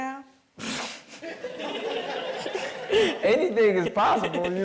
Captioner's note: all chuckling